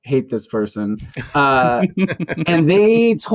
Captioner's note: laughter